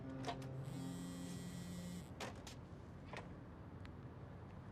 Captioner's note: phone vibrating